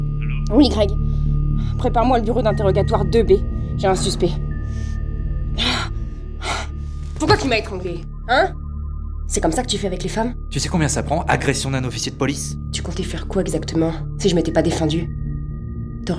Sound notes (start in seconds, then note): 0.3 on the phone; 6.3 gasps